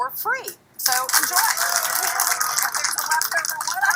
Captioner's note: applause